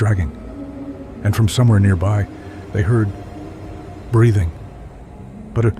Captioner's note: breathing